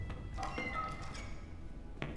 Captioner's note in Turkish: Kapı Gıcırtısı Sesi